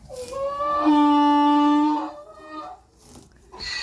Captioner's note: donkey braying